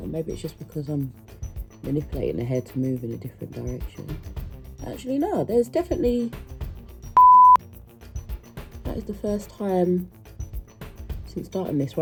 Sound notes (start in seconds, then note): 7.2 beep